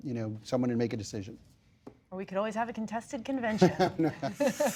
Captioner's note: laughter